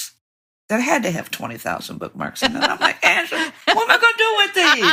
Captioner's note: laughter